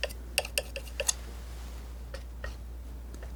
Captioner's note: tapping